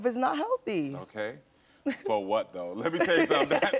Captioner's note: laughs